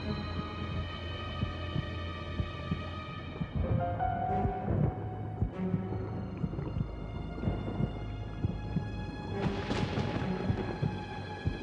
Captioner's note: heart beating